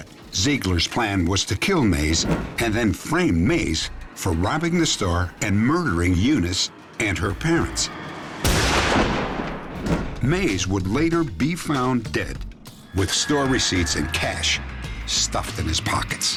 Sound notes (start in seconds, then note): 8.4 gunshot